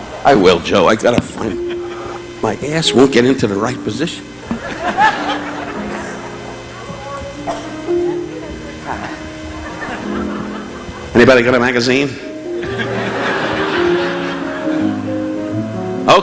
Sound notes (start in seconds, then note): 4.4 relaxing instrumental music; 4.4 audience laughing; 8.8 Don sighing in comfort; 12.5 audience laughing